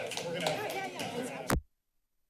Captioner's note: clapping; background chatter; silence